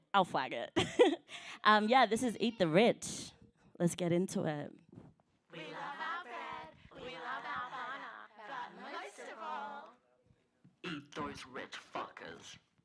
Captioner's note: laughs